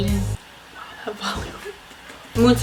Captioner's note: whispers